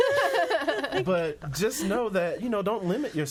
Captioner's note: all laughing